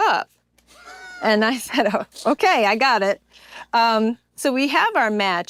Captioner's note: laugh